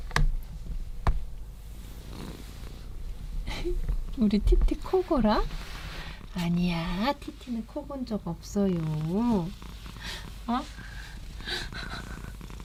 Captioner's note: TT purring ASMR